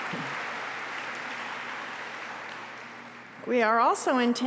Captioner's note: applause